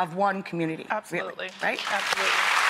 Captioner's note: applauding